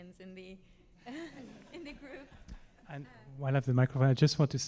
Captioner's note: all laughing